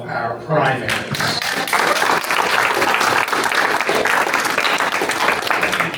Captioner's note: applause